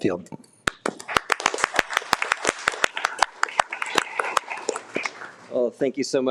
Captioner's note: board members and audience applauding